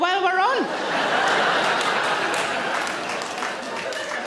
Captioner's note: audience laughs